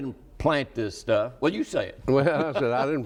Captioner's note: laughs